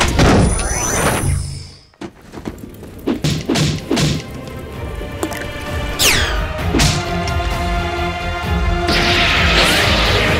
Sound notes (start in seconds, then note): 0.2 door slams; 2.9 pickax thudding; 4.6 upbeat tense music